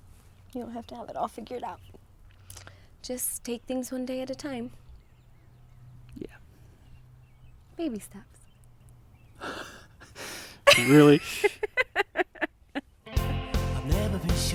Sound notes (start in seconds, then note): 10.6 laughing